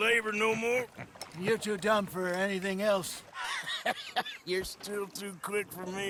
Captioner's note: laughs